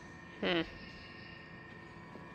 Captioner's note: hmm